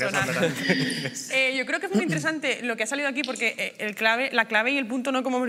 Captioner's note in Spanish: todos ríen